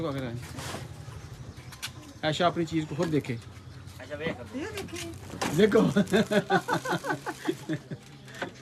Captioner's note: laughing